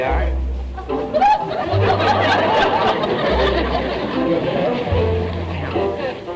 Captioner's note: audience laughter